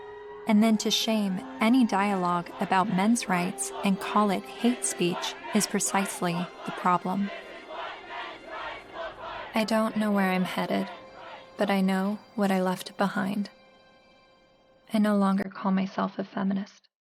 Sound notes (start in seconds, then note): 5.0 crowd